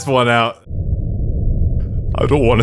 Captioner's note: terrified